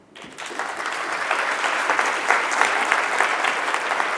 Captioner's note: audience clapping